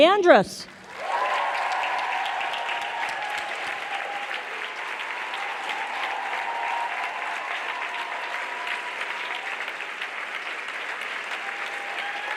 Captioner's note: applause